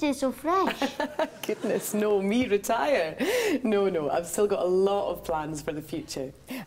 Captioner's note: audience laughs